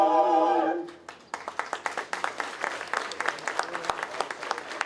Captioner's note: applause